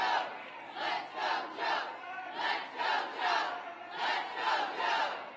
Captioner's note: applause